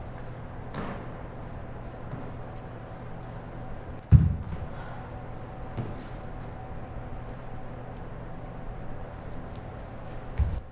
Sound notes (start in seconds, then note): 4.7 short sigh